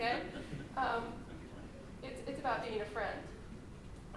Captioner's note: laughter